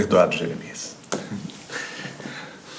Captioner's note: audible smile